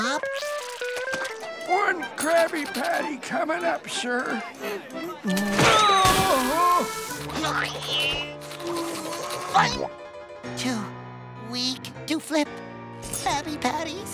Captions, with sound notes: One Krabby Patty coming up, sir. [screaming] [grunting] Too weak to flip Krabby Patties.